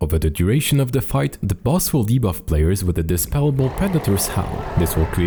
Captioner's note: predator's howl